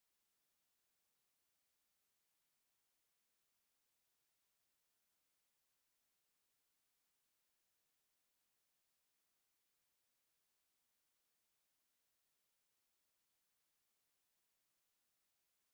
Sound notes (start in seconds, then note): none